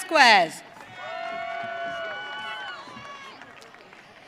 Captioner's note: audience cheering